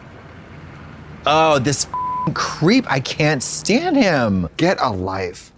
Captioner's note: beep